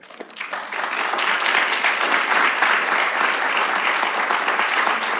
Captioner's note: applause